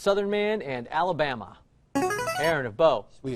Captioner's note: chiming